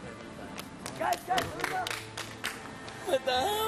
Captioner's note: clapping